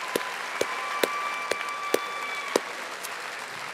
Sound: audience applauding

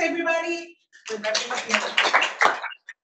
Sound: audience applauding

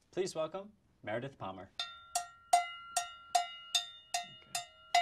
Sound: bell ringing

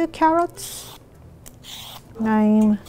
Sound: peeling noise

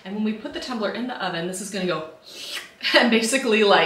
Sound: mimics sound of wrap shrinking

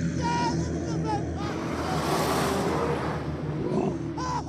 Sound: Char Voki screeches

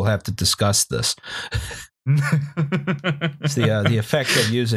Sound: laughter

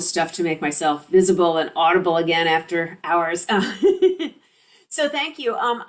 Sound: laughs

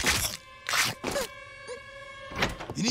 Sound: crunching; scared whimper

